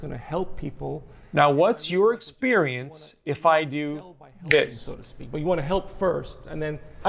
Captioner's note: fingers snapping